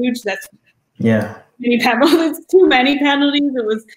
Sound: laugh

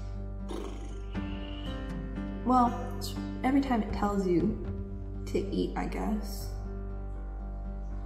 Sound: blows raspberries

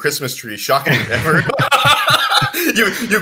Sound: both laugh

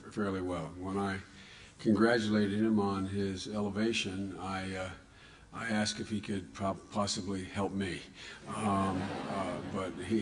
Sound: laughter

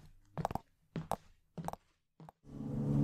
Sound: service elevator door closes

